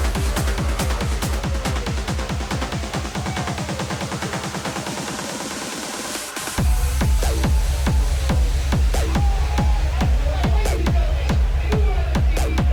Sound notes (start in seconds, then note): 2.9 energetic music; 2.9 participants exclaiming